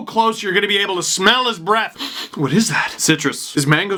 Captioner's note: sniff sniff